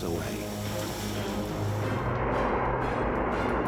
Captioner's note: flames roar